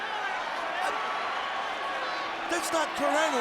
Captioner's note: audience chattering